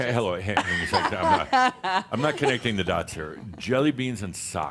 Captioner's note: she laughs